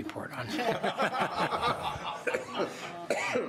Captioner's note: laughs